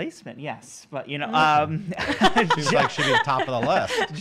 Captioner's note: laughing